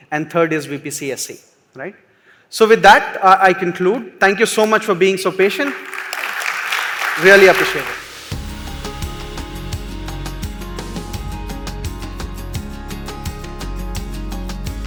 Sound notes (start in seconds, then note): 5.4 applause